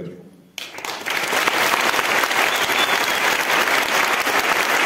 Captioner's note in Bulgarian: аплодисменти